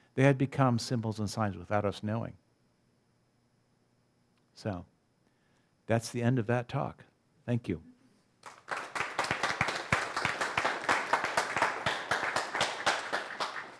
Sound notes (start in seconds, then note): 8.4 audience applause